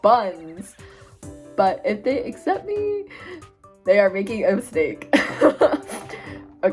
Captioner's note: laughing